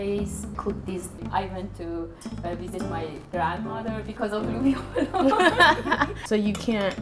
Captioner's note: laughter